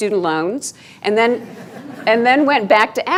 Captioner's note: laughing